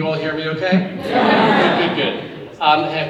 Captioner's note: audience agreeing